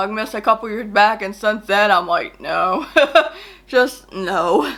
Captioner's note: laughs